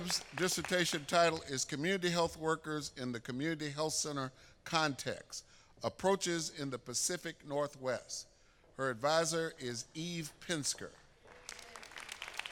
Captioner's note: applause